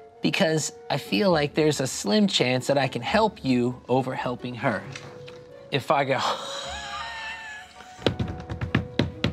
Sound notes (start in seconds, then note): 6.2 laughs